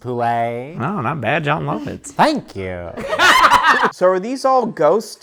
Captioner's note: laugh